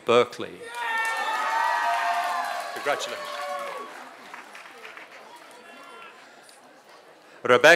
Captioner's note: applause